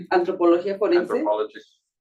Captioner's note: speaking Spanish